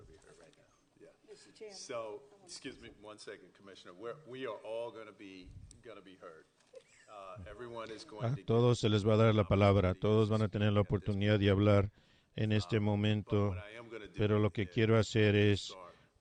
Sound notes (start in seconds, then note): 1.9 laughter